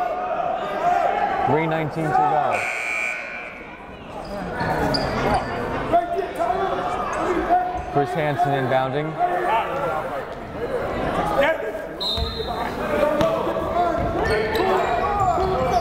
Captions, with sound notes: 3:19 to go. (buzzer blaring) (yelling) Chris Hansen inbounding. (whistle blowing)